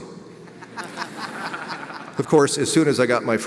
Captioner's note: audience laughs